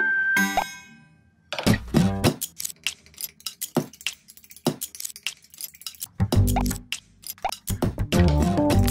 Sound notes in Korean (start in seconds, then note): 3.4 탁탁탁탁, 휘젓는 소리